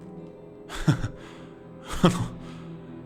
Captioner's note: laughs